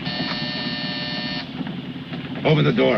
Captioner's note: doorbell buzzing